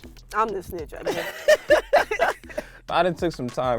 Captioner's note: both laughing